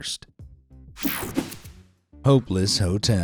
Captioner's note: graphics whooshing